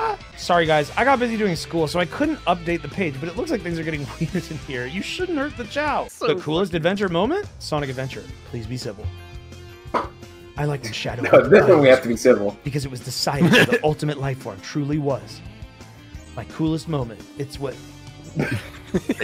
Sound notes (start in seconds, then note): 13.3 laughs; 18.3 laughter